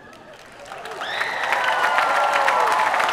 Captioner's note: applause